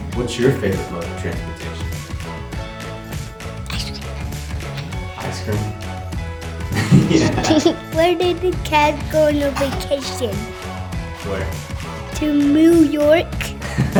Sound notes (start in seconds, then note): 6.7 man laughing; 6.8 girl giggling